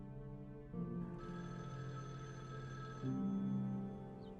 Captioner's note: phone ringing